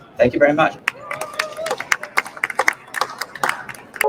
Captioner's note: applause